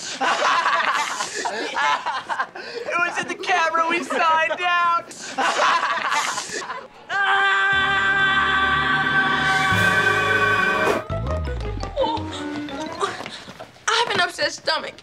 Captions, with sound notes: [laughing] It was in the camera we signed out. [laughing] [screaming] I have an upset stomach.